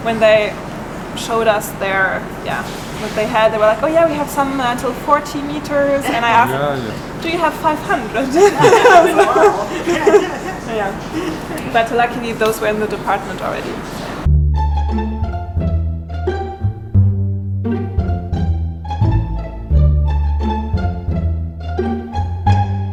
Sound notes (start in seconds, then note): 9.6 laughing; 18.8 comedy music